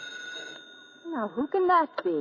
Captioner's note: phone rings